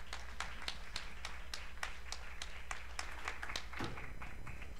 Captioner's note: applause